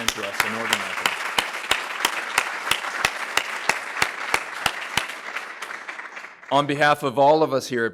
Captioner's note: applause